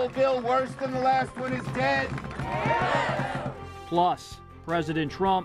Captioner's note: cheers